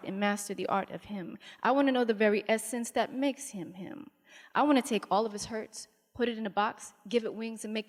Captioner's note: none